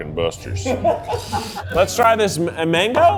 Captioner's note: crew laughing